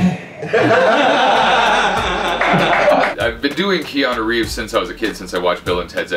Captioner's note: laughter